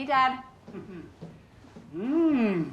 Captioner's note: chuckling